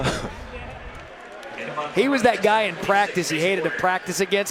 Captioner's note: laughter